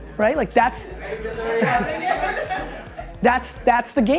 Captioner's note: group laughter